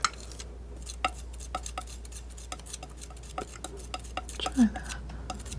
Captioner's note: scratching